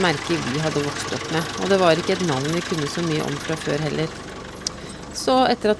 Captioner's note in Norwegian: traktor